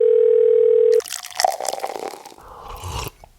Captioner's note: phone ringing; liquid pouring; person sipping liquid